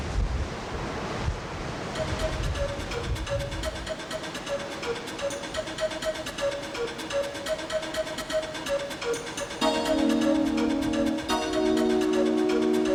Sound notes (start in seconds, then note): 1.8 water rushing; 1.9 upbeat music; 9.6 music building